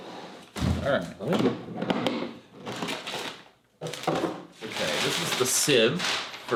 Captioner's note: packaging rustling